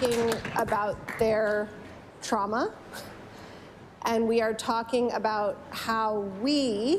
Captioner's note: applause